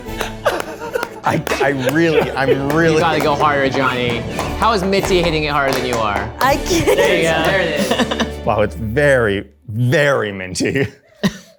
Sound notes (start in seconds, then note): 4.3 laughs; 6.4 laughs